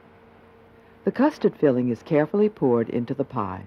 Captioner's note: voiceover